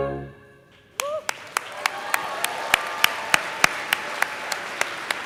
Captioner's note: cheering and applause